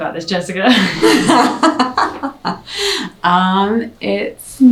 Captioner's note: both laugh